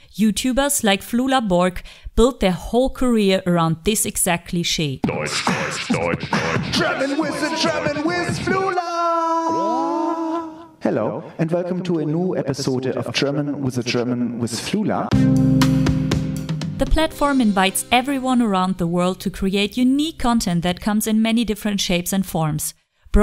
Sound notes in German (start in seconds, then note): 5.9 schwerer deutscher Akzent